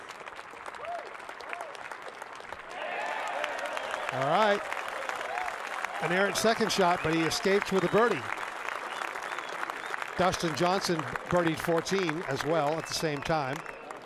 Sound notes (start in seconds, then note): 6.7 applause